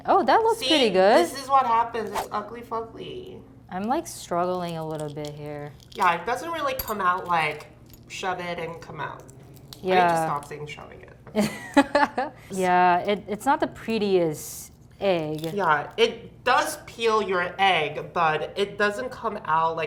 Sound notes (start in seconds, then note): 11.3 chuckles